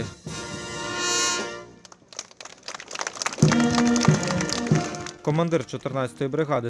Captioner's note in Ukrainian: аплодують